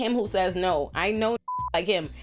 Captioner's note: beep